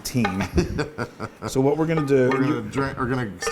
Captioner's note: laugh